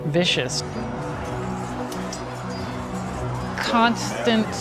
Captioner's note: soldiers yelling